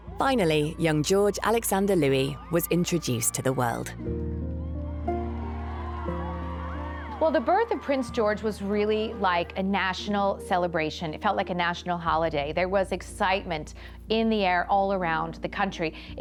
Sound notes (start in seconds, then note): 4.4 crowd cheering